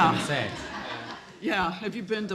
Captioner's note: laughing